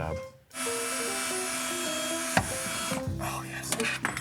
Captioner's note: drilling